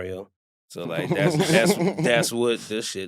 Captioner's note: chuckles